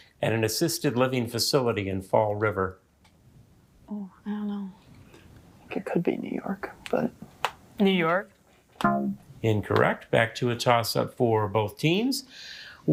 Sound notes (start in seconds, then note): 8.8 womp chimes